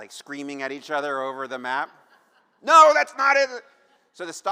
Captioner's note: laughter